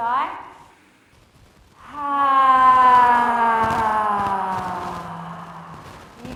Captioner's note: all inhale and exhale deeply